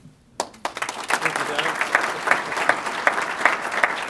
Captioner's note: applause